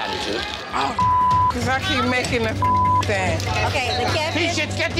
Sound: beep

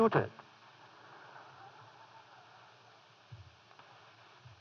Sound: laughter

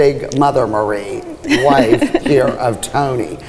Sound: laughing

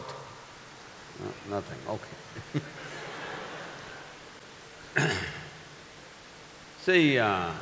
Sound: few laugh

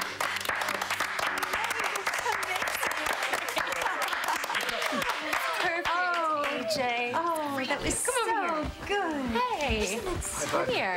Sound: applause

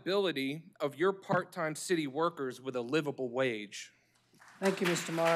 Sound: applause

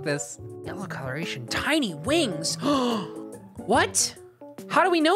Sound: gasps

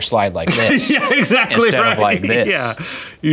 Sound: laughing

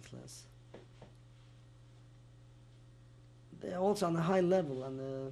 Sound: pauses for 3 seconds

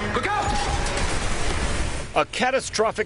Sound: smash

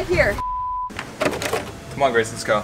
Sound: beeping

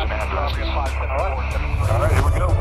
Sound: radio noise

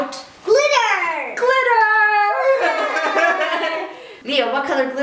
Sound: laughter

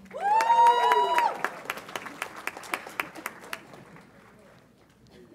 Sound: audience applauds and cheers

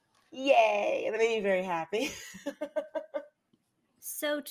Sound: laughs

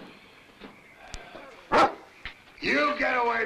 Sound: dog barks

